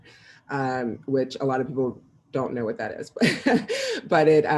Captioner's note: laughs